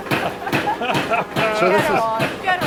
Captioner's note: laughs